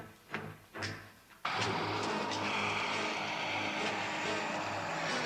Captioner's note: footsteps shuffling; dramatic music